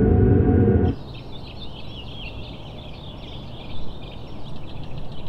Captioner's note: birds chirping